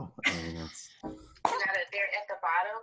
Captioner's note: laughs